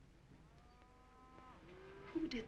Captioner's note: cows mooing